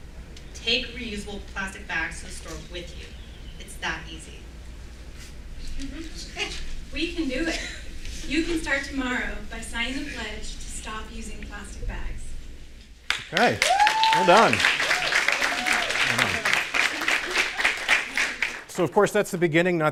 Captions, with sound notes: Take reusable plastic bags to the store with you. It's that easy. We can do it. You can start tomorrow by signing a pledge to stop using plastic bags. *Applause* So of course that's the beginning,